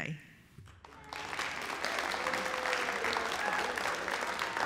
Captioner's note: applause, cheers